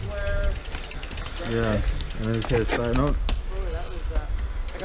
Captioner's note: wheels clicking